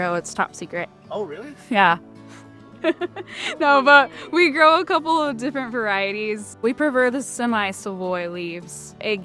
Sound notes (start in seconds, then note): 2.8 laughing